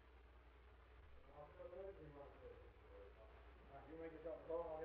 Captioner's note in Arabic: ثرثرة خافتة بعيدة